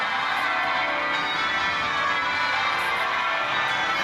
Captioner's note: wedding bells